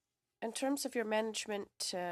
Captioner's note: speaking in French